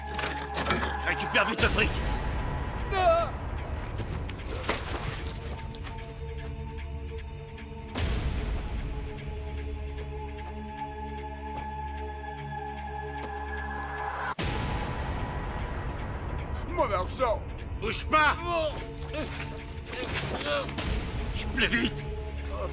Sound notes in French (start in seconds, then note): 2.8 les gens crient; 11.2 musique tendue et pleine de suspense